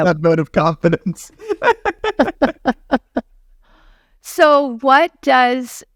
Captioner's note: laughing